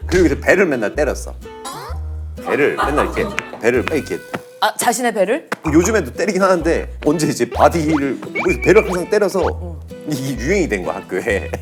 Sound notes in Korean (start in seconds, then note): 8.1 콩 콩